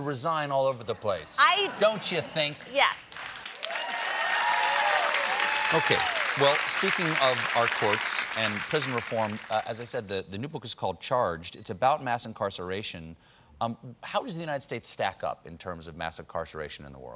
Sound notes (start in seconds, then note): 3.1 cheers and applause